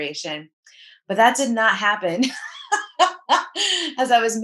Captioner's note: laughs